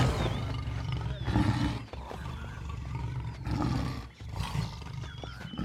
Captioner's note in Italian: ruggito